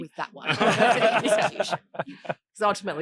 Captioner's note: audience laughing